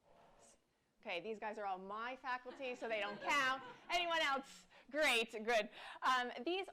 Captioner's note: laughter